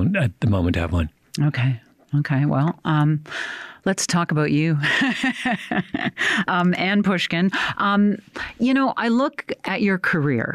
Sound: chuckles

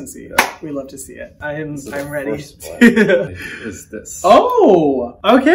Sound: claps; laughs

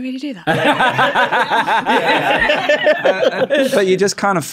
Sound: laughs in game dev

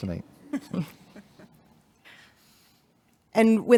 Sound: board members chuckling

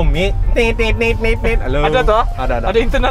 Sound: imitating alarm sound

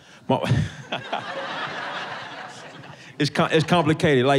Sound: laughs

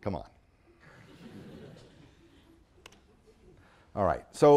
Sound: audience chuckling

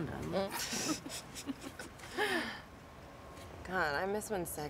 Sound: laughing

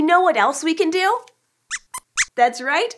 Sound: squeaks squeaks

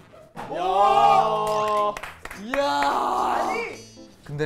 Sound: applause

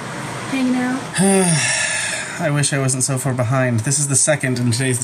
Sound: sighs

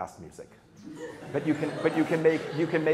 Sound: laughter

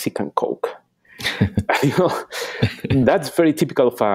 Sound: laughing

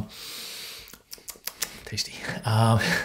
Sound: smacking lips

